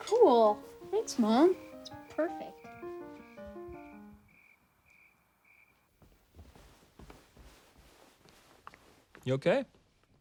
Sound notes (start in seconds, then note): 1.5 crickets chirping; 2.7 classical piano music